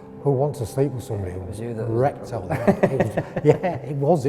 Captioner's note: laughing